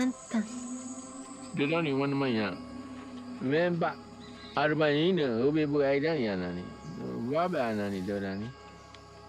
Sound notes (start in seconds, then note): 1.5 speaking in foreign language